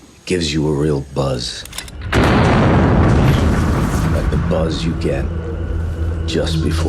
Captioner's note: soundbite of gun firing